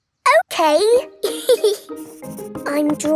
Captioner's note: giggles